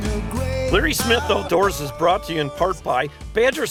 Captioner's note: voiceover